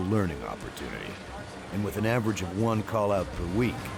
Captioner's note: voiceover